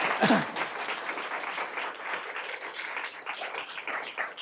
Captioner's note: audience applauds